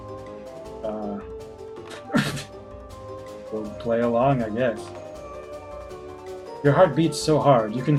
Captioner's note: splutters